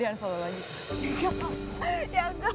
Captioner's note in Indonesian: Ketawa